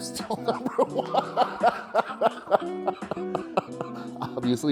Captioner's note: laughs